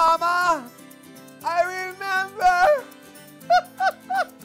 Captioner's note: laughing